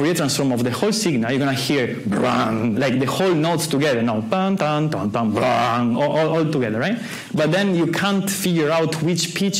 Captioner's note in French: imite un son